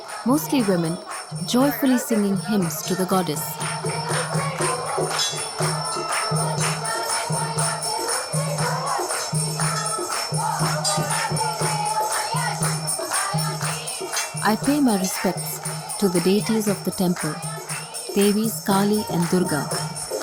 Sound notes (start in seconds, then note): 3.6 applausing; 3.6 singing in chorus